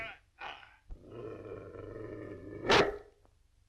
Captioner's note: growling; barking